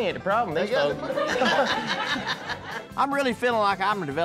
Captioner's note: laughter